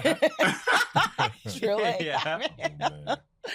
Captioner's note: laughter